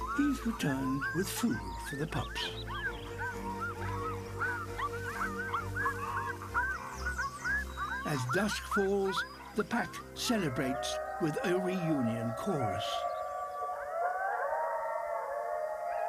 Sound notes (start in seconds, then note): 3.2 excited yelps; 13.3 distant chorus of howls